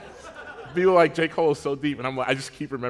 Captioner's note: laughter